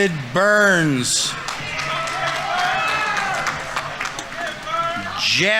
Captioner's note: audience members cheering; audience applauding